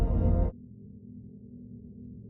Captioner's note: drone